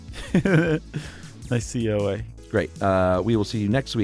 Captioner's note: chuckles